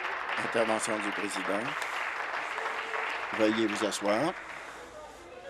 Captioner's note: applause